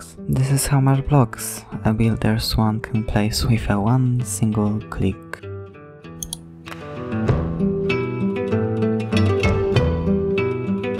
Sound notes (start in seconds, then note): 6.2 click; 6.7 upbeat music intensifies